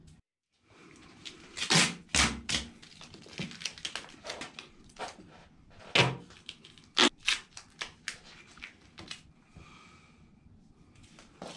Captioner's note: duct tape stretching, sticking, and tearing